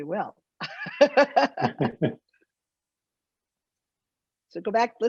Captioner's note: both laughing